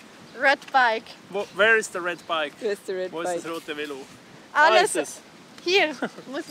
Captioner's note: repeats it in German